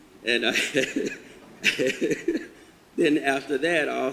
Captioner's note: laughs